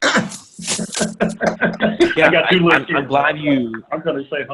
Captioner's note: laughing